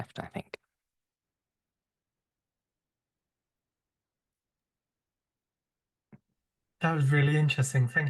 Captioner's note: long pause